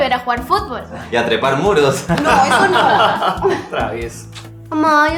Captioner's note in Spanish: risas